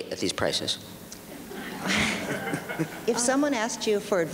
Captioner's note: audience laughs